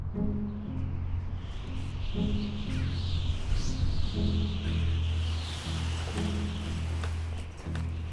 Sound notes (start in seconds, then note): 0.0 birds chirping; 0.0 somber music; 0.9 wind whistling